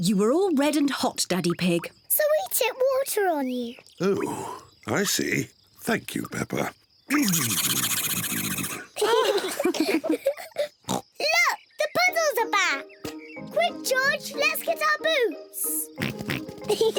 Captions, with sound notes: You were all red and hot, Daddy Pig. So we tipped water on you. Oh, I see. Thank you, Peppa. (SPLUTTERING) (ALL LAUGH) (OINKS) Look, the puddles are back! Quick, George, let's get our boots!